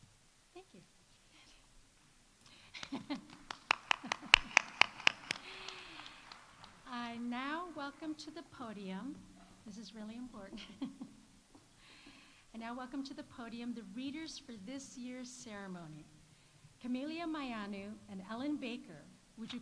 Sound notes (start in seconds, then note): 2.7 laughs